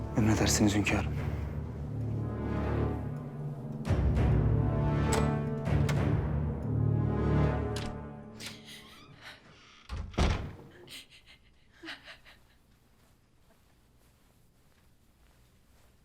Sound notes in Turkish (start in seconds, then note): 8.1 Kapı açılma sesi; 8.5 Ağlama sesi